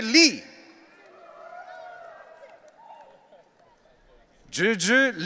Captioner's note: audience cheering